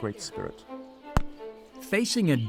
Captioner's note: gunshot